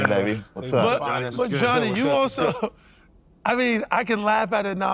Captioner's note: laughs